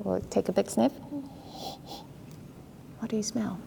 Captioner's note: nose sniffing